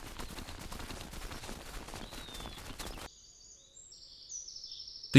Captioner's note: śpiew ptaków, tętent biegnących żubrów